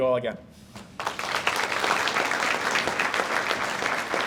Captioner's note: audience applauds